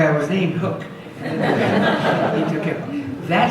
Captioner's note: audience laughs